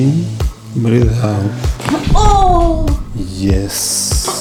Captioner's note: the sound of bones